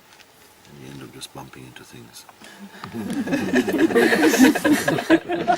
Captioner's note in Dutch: gelach